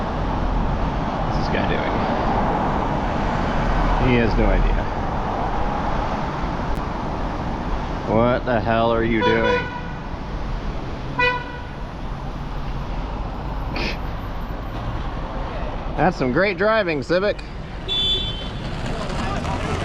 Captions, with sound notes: What is this guy doing?... He has no idea What the hell are you doing?? *HONK*HONK* *HONK* That's some great driving, Civic! *Another car honks at them*